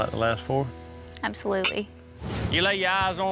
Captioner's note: glasses clink